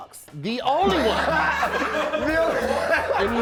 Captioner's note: laughing